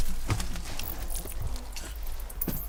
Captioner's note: bats chittering